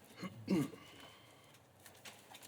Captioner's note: pinter clears his throat